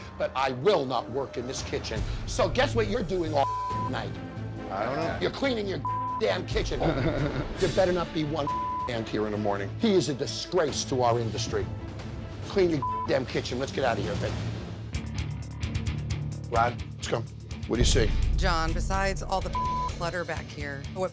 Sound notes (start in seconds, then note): 3.4 beep; 5.8 beep; 6.7 chuckles; 8.5 beep; 12.8 beep; 15.3 intense music; 19.3 beep